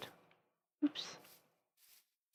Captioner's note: quietly